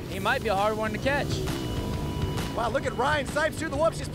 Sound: engines revving

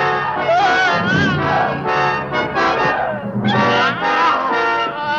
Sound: pounding

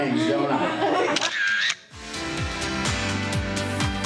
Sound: camera flashes; upbeat music

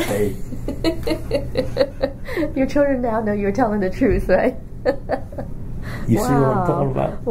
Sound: laughs

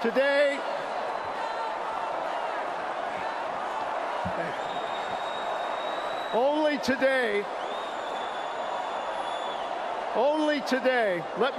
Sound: audience chanting

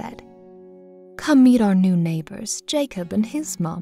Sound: voiceover

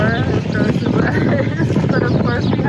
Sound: chuckles

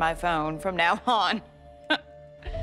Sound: laughs

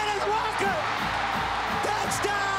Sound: crowd cheering

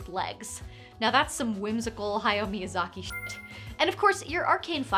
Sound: beep

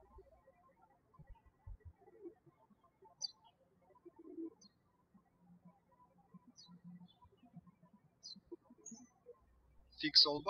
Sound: birds chirping

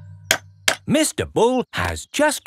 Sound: clanking

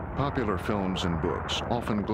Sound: voiceover

